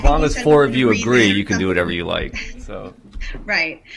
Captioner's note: laughter